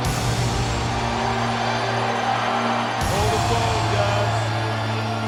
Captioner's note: crowd cheering